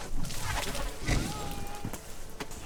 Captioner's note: Gareth yells